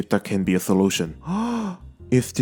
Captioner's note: gasps